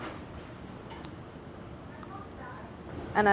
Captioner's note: none